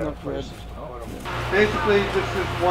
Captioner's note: fan whirring